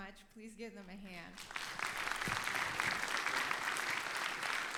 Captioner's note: audience applauds